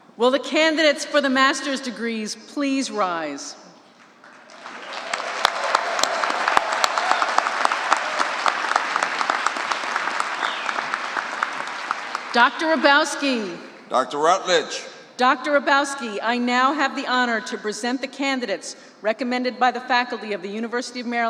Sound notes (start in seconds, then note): 4.1 applause